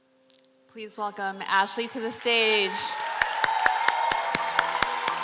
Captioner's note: applause